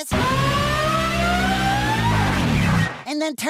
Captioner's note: screams like a siren